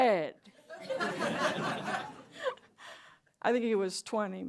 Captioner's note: laughter